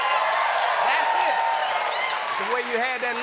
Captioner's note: cheers and applause